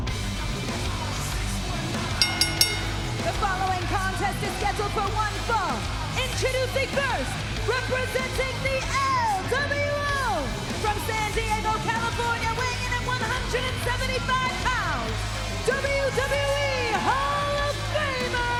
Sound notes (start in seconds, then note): 2.2 bell ringing